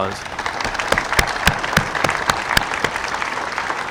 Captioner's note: audience applauding